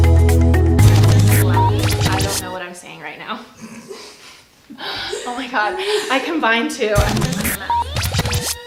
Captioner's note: laugh